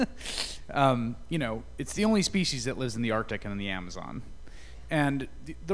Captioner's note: laughter